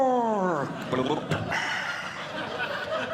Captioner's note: snorkeling Sounds; audience Laughing